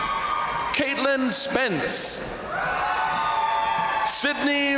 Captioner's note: crowd cheering